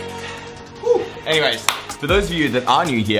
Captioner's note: clap